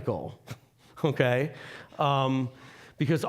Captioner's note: chuckling